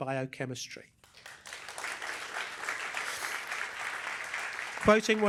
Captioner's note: applause